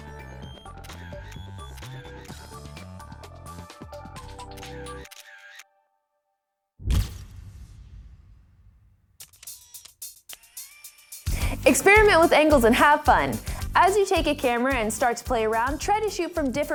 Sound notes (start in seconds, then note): 0.0 soft music; 3.4 camera clicks